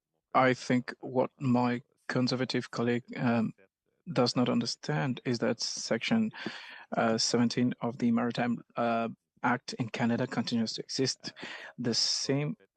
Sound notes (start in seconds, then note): 3.2 speaking French